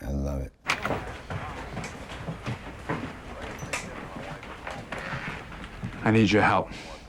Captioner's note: people chattering; shoes clacking